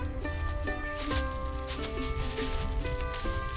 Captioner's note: leaves crunching